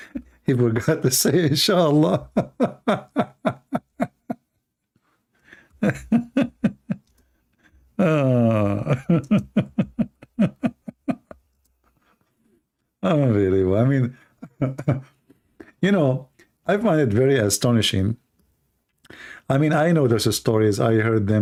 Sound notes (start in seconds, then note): 5.4 Ketawa